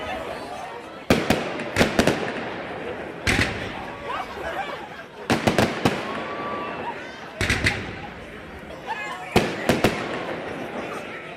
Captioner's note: cheering and applause; fireworks